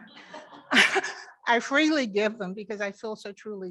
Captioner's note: members laughing